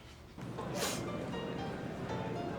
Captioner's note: loud Sniff